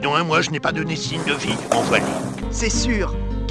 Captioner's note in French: bruits de patins à roulettes